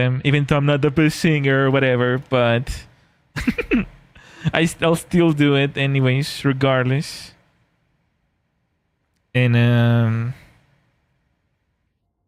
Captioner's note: laughter